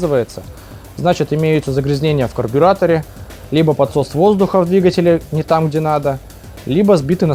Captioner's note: air leaks